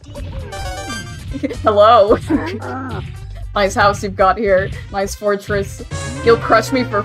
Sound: giggling

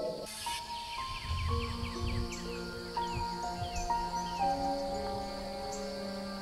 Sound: birds chirping; gentle piano music

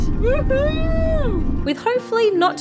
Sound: cheering

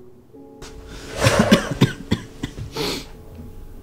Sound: coughing fit

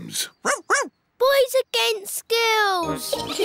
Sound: barks; all giggling

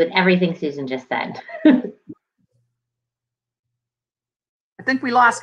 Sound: laughs

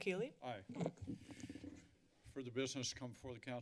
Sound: microphone rustling

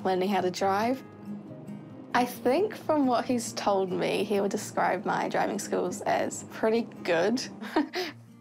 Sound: chuckles

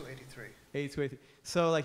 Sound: voiceover

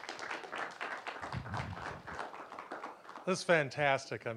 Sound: applause

